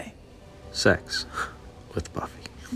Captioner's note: scoffs